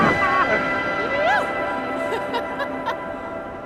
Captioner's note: laughing